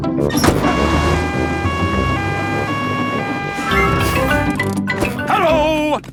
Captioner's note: siren wailing